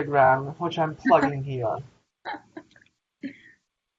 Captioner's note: laughter in background